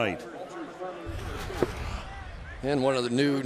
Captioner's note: pa announcement